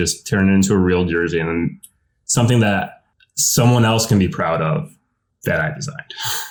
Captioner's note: laughs